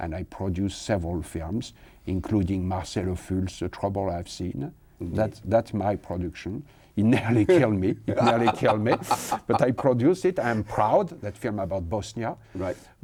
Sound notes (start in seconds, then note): 8.1 laughs